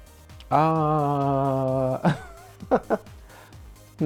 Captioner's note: chuckling